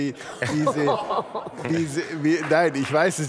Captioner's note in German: Lachen